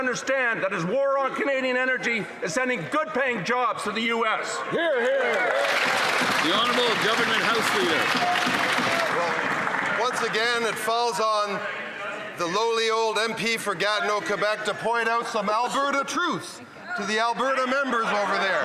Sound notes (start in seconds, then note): 9.8 some Applause